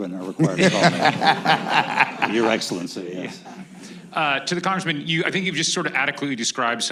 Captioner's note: laughter